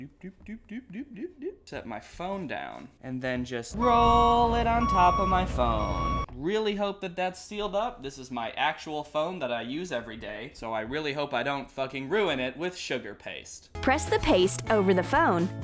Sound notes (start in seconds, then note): 3.7 construction noises